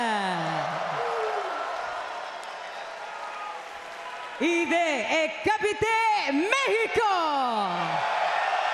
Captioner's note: applause